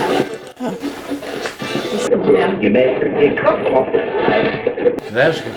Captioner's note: radio voices; radio voices